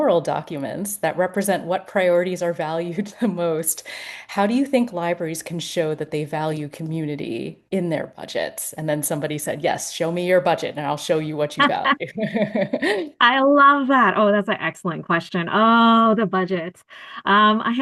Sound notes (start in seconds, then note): 11.6 laughter